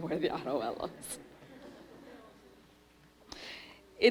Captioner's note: laughter